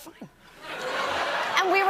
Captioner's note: laughter